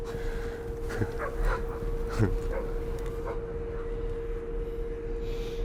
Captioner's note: dogs barking